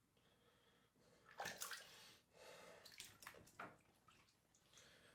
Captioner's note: water splashes